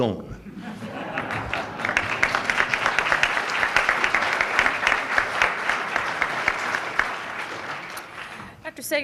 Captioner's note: applause